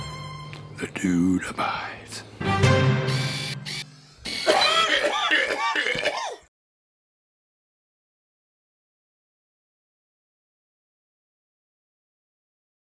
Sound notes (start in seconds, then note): 2.4 music sting; 4.4 violent coughing